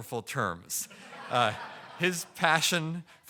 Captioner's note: audience laughing